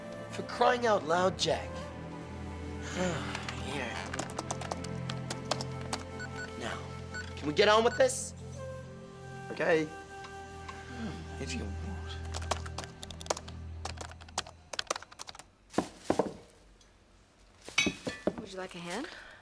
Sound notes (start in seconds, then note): 4.0 keyboard keys clacking; 12.3 keyboard keys clacking; 17.7 bottles thudding